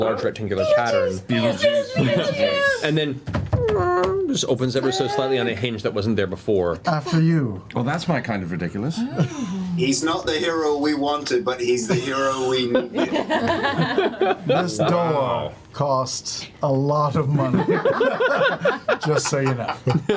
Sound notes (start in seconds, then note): 11.8 laughter